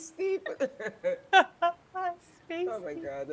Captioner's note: people laughing